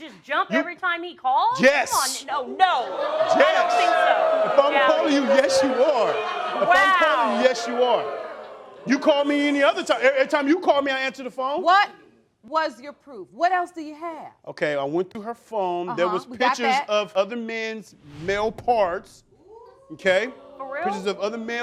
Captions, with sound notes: I'm supposed to just jump every time he calls? Yes. Yes. Oh. No. (CROWD BOOING) I don't think so. If I'mma call you, yes you are. Wow. You call me any other time... Any time you call me I answer the phone. What was your proof? What else do you have? Okay, I went through her phone... We got that. There was pictures of other men's male parts, 'kay? For real?